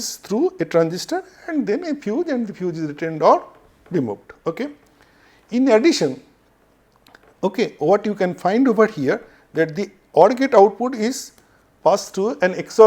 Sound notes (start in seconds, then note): 5.2 feedback